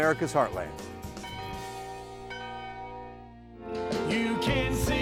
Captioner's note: bells